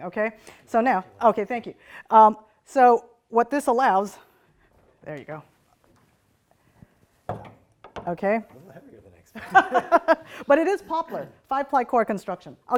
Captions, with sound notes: So now, okay thank you. So what this allows, there you go... - A little heavier than I thought. (laughs) - But it is poplar, 5-ply core construction.